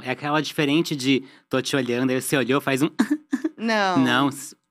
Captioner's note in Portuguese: riso tímido